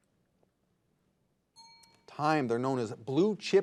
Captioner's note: bell rings